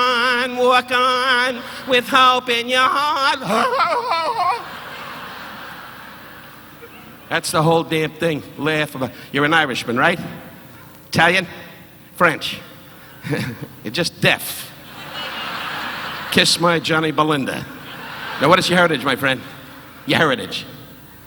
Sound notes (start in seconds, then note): 14.8 laughs